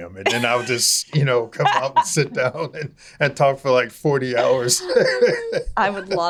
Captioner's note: laughing